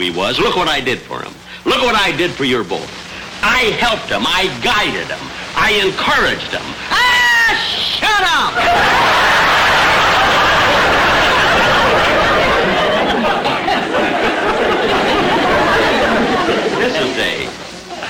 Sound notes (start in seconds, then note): 8.6 audience laughter